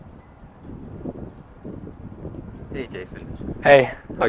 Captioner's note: wind blowing